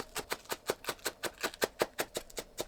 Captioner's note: chop Chop Chop